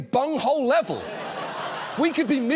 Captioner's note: audience laughs